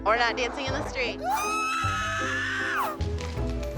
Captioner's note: screaming shrilly